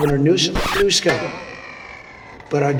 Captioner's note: cartoon boing